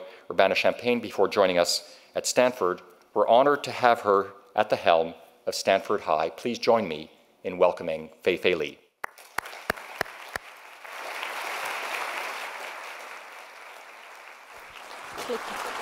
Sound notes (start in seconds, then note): 9.0 audience clapping